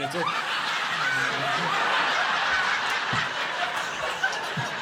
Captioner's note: audience laughing